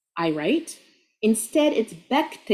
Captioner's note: speaking Arabic; speaking Arabic